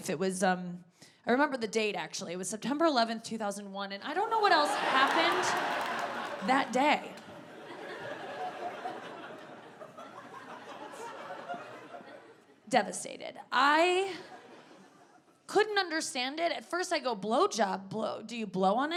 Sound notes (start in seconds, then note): 5.3 audience laughing